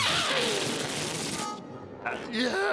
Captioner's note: escaping air squealing